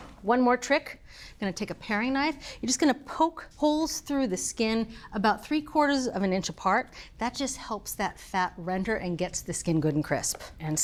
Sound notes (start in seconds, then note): none